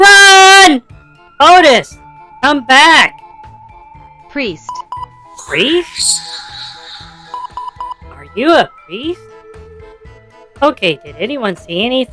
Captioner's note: excitedly